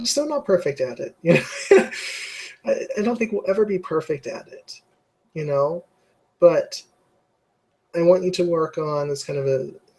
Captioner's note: laugh